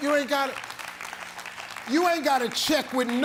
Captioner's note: audience applauds